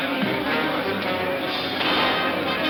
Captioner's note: bar patrons chattering; dramatic orchestral music; gun fires